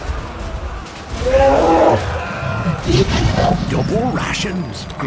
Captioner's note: unhappy mammoth noises